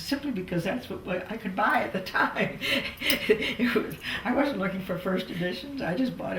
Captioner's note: laughs